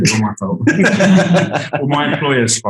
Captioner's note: group laughing